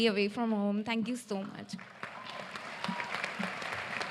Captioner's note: applause